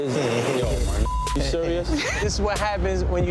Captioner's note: beep